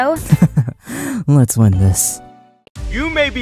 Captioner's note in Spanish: risas